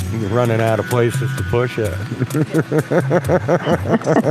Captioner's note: laughs